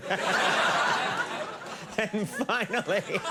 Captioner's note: crowd laughs